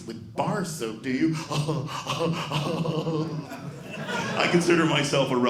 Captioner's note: laughing